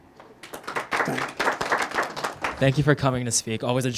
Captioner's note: attendees applauding